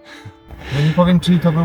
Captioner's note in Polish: wciągnięcie powietrza